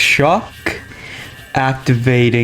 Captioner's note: inhales Oxygen